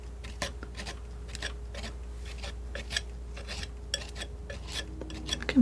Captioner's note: crunching